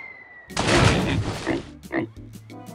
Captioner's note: air whistling; oink oink